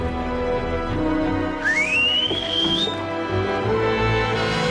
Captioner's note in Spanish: Silbido